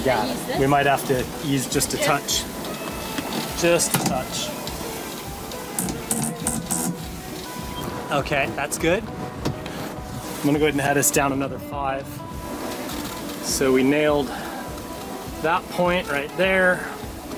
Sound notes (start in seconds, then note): 5.9 machine buzzing